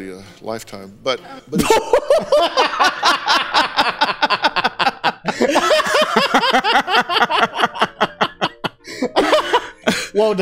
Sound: more laughter

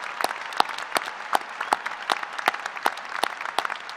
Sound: applause

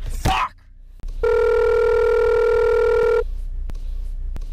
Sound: phone rings

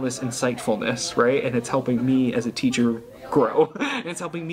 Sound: chuckles

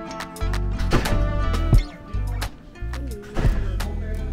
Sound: door closing

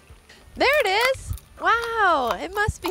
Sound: crunching nuts

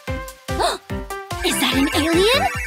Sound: beeping

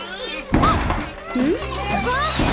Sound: Bongolalas chattering

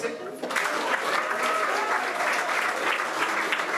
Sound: applause

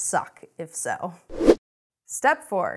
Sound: air rushes

